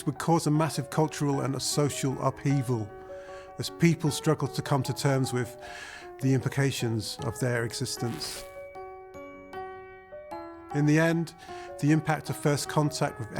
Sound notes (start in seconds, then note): 8.0 static crackling